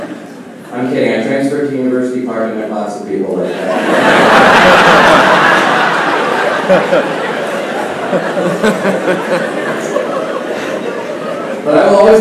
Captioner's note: laughing